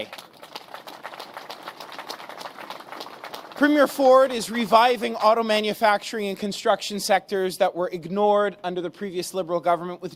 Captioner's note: applause